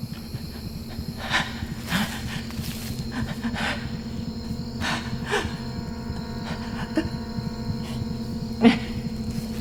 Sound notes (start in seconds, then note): 0.0 Caroline panting; 6.3 dramatic music